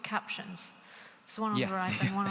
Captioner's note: laughing